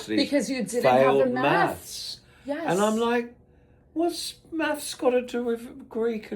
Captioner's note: gasps